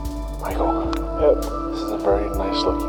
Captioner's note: whispering